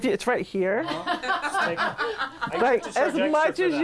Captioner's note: people in room laughing